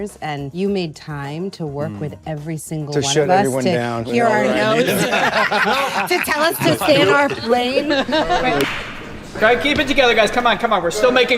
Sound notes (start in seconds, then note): 4.3 panelists laughing